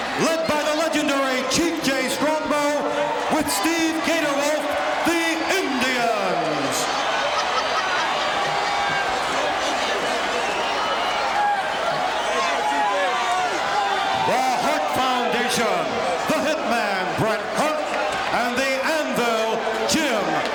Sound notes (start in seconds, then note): 6.6 audience cheering